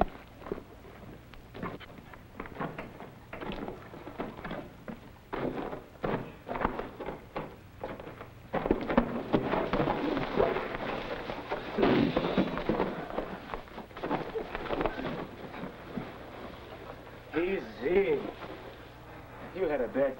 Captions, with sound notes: (Scraping Sound) Easy. You had a bad time.